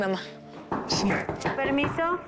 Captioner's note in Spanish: Toques en la puerta